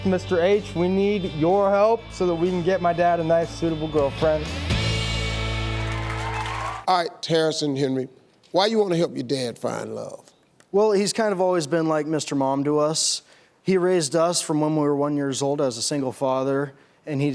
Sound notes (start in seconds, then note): 5.8 clapping